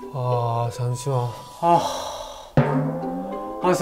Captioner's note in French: Profond soupir